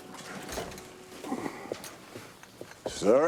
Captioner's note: footstep